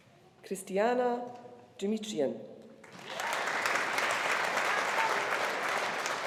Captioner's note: audience applauding